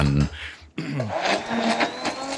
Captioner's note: mixer whirring